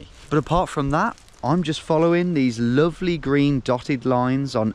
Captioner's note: none